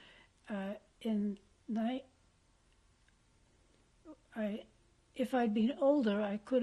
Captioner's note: pauses for 3 seconds